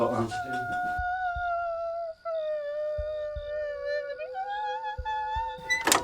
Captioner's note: Mrs. Wells muttering